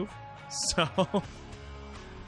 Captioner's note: laughing